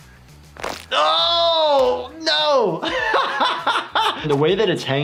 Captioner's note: yelling; laughs